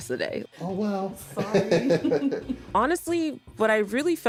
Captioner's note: laughs